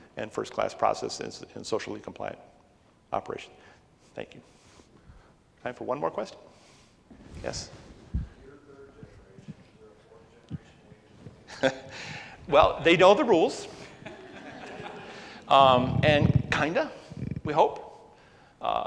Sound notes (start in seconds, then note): 13.8 audience laughs